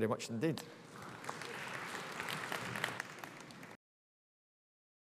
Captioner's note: audience applauds